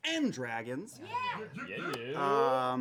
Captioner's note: cheering